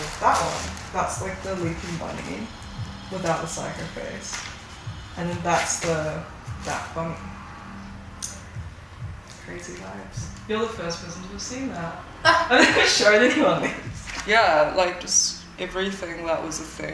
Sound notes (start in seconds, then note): 8.2 lips clicks; 12.2 laughing; 12.2 laughs